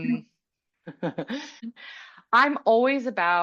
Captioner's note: laughing